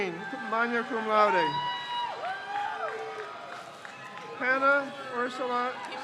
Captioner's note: crowd cheers